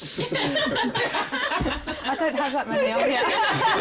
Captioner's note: laughter